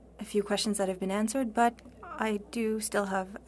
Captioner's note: speaking French